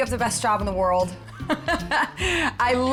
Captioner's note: laughs